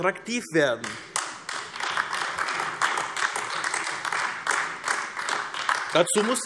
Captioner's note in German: Beifall AfD